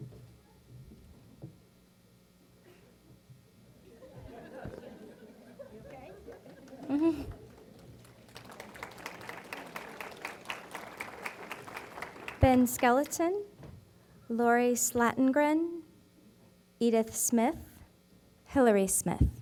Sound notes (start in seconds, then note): 3.9 laughter; 7.6 applause